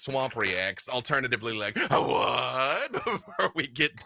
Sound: laughs

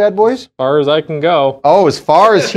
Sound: laughs

